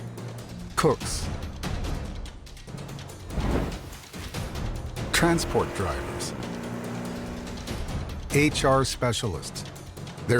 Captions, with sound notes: cooks, (dramatic music) transport drivers, (engine rumbles) HR specialists, (dramatic music)